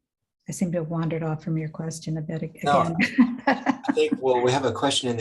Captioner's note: laughs